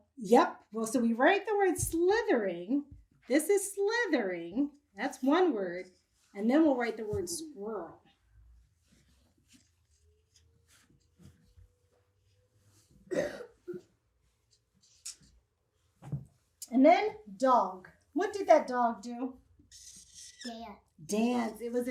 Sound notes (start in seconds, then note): 8.2 marker brushes against whiteboard; 13.1 boy coughs; 19.6 marker squeaks